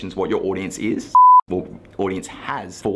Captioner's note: beep